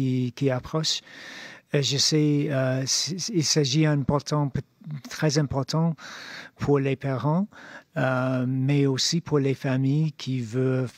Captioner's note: speaking French